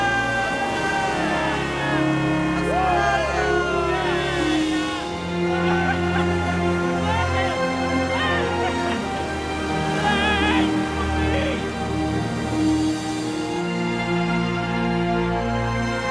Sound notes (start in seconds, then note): 0.3 all cheering; 6.3 cheering; 6.3 majestic music